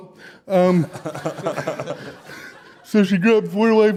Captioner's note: audience Laughter